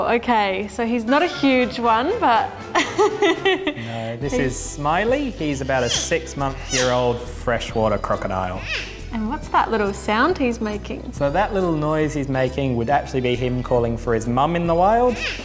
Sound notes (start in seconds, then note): 1.0 laughs; 5.5 smiley squeaks